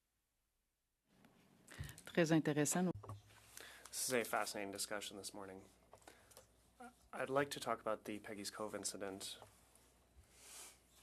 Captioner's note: speaking French